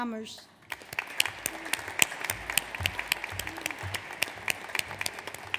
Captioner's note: audience applauds